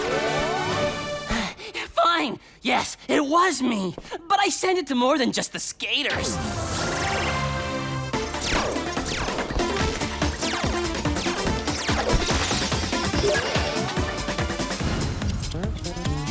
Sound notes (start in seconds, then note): 1.2 out of breath